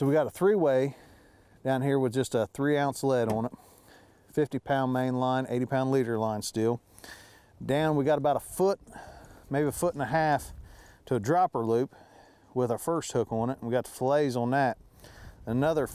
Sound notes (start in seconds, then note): none